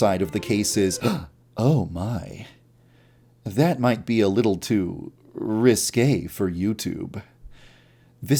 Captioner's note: gasp!